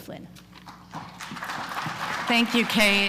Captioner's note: applause